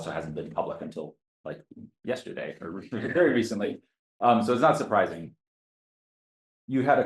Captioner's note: audience Laughter